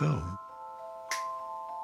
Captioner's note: snaps fingers